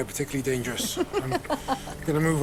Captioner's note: laughing